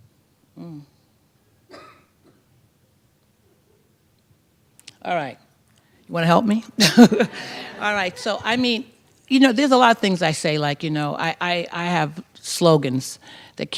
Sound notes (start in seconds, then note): 6.8 laughter